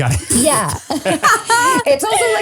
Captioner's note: all laugh